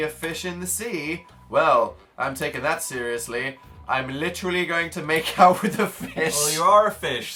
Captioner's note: laughs